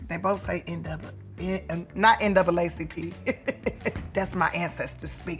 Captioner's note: laughing